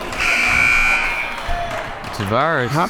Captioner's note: siren blaring